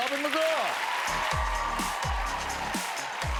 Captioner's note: cheers and applause